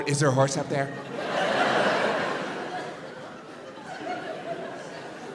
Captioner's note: crowd laughs